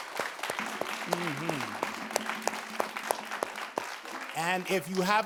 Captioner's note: audience claps